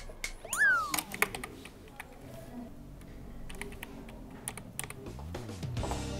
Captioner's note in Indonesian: Kantor yang sepi dan satu-satunya suara adalah dari keyboard